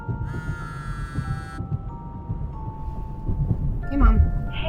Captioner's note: phone buzzing